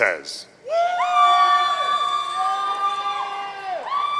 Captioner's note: audience cheering